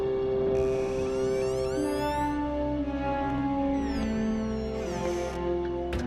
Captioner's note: door creaking